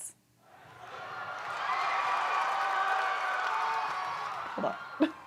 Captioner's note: audience applauding